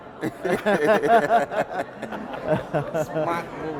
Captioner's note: laugh